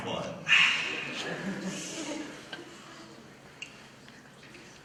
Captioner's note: laughter